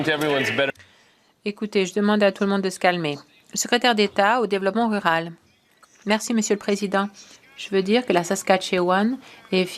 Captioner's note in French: voix de l'interprète